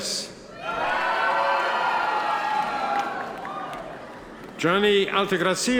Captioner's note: audience members cheer